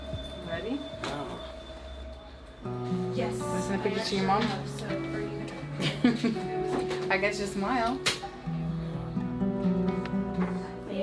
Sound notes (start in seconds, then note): 3.1 placid music; 5.8 laughs; 8.8 chattering